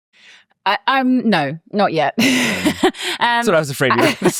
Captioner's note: laughs